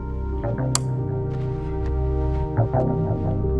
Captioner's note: switch clicks